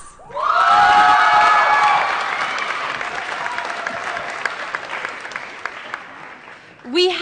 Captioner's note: applause & Cheering